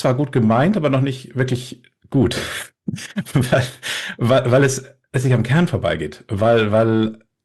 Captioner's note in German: gelächter